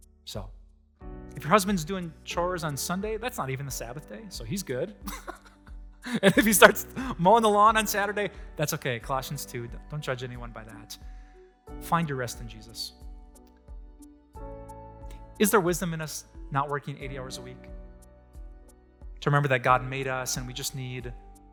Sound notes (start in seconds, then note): 5.0 pastor: Laughter